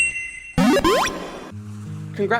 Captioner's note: Pokédex Loads